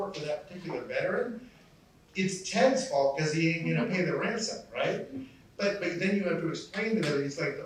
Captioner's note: none